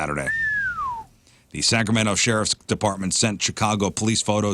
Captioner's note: whistle